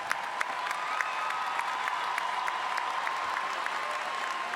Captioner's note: audience applauding